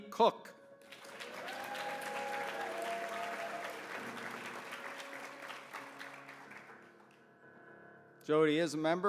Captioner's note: applause